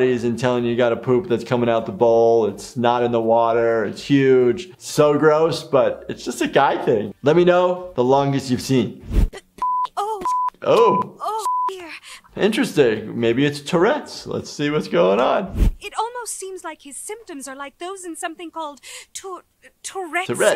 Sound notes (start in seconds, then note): 11.4 beep